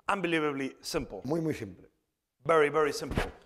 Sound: speaking spanish

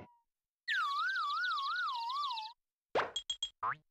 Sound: birds chirping

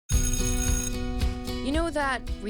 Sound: school bell ringing

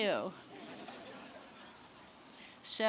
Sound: laughter

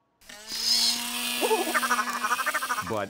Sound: whirring; chattering

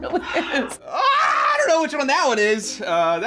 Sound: laughs; screams

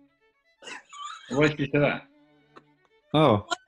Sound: giggling

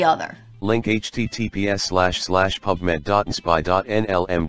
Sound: screenreader voice

